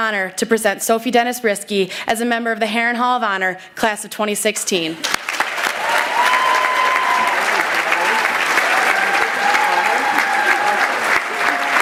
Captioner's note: applause